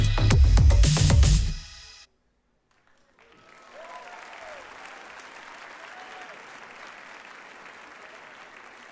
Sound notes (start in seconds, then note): 2.8 audience applauding